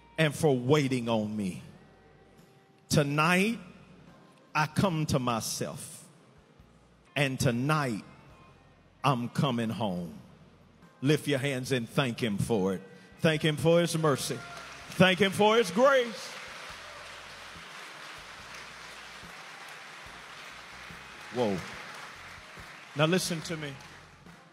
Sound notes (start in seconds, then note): 16.1 inmates applaud; 18.1 applause continues